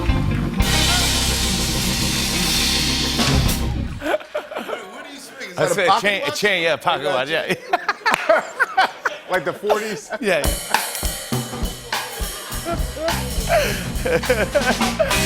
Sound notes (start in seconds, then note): 4.0 laughter; 7.2 laughter